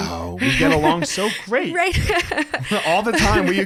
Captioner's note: laughs